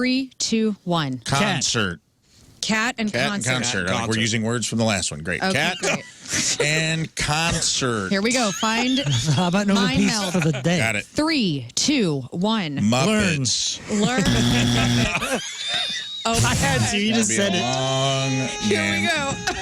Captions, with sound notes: Three, two, one. Cat. Concert. Cat and concert. Cat and concert, oh, we're using words from the last one. Great. Cat and concert. Here we go, find-- How about no repeats? Mine mouth of the day. Got it. Three, two, one. Muppets. Learn and Muppets. (Buzzer) Oh, I had to, you just said it. Be long, gang. Here we go.